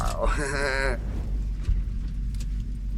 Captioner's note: laughing